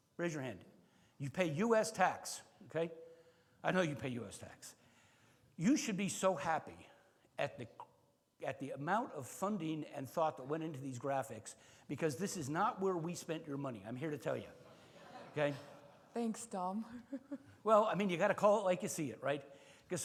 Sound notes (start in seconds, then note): 14.8 attendees laugh; 16.9 laughs